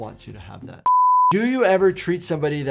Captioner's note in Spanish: pitido en pantalla